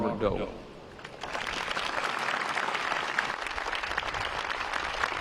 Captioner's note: applause